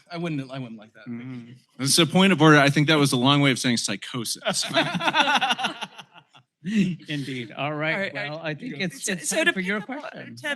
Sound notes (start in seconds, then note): 4.5 laughter